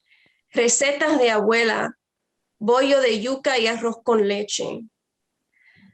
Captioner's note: foreign language